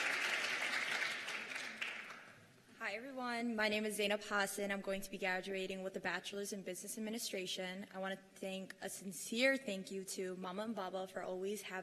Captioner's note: cheers and applause